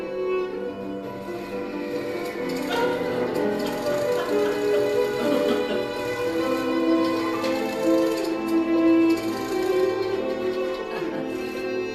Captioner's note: machinery sounds and music